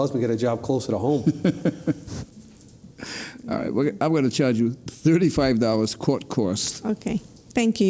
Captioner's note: laughs